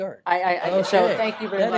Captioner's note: laughter